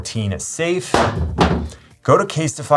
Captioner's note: phone thuds